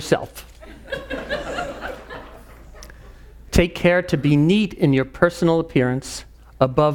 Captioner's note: laugh